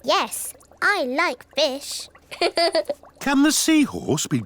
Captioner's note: laughs